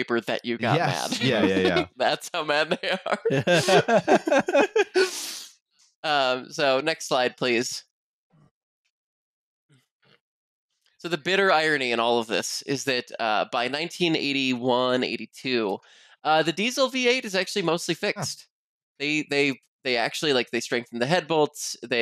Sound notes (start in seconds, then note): 3.2 laughter